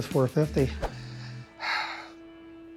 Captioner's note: sighs; tense music